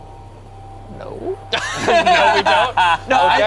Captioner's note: group laughs